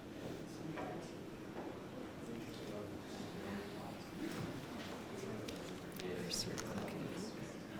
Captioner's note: audience chatter